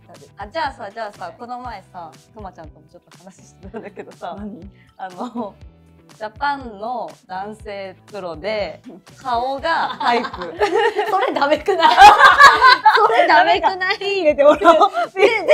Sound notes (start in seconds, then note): 11.7 laugh; 11.7 laughs; 15.1 laughs